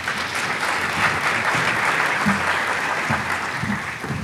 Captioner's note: audience applauding